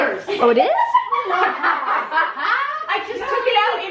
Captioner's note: all laughing